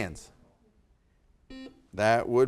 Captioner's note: buzzer buzzing